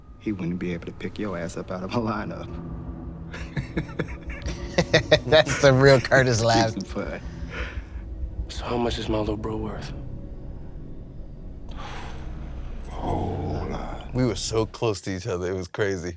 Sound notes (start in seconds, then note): 3.3 chuckles; 3.4 laughs; 11.5 exhales